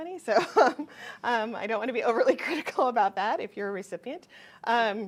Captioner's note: chuckles